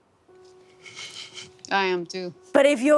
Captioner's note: snickers